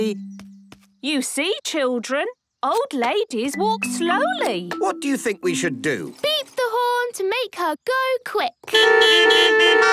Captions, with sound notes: - You see, children, old ladies walk slowly. - What do you think we should do? - Beep the horn to make her go quick. (beeping)